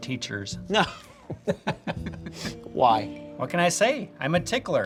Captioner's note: laughing